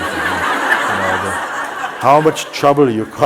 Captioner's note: laughter